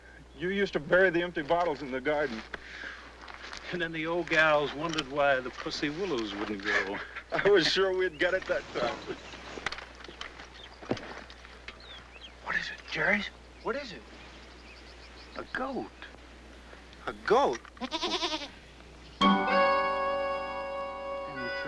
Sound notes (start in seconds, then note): 6.6 chuckles; 8.8 branches rustling; 17.7 goat bleating; 19.3 upbeat orchestral music